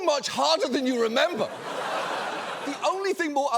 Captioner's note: audience laughs